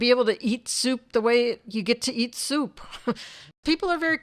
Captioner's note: chuckles